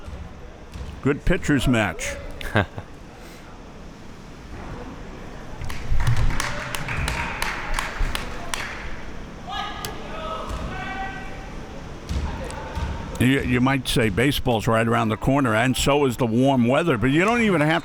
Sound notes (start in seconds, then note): 5.6 spectators applauding; 10.0 athletes shouting